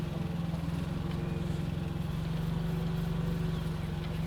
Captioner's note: none